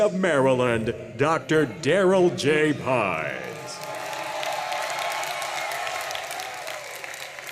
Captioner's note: audience cheers and claps